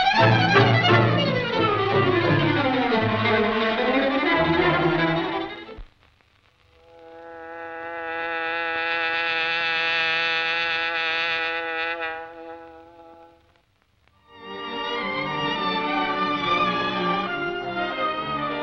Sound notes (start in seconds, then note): 7.0 bee buzzes; 14.3 dramatic classical music